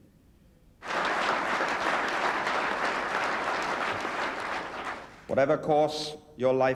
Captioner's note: audience applauding